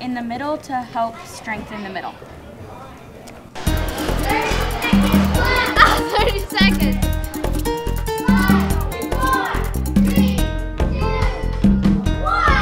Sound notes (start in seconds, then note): 3.8 laugh